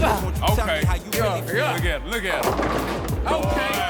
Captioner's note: grunts